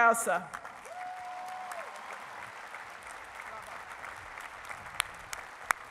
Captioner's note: cheering and applause; applause drowns out speech